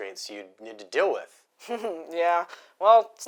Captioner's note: laugh